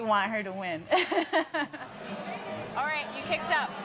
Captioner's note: laughs